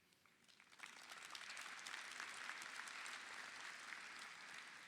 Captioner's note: audience applauding